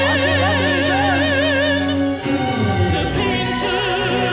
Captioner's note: performer speaking Arabic